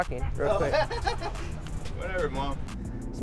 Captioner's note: laughing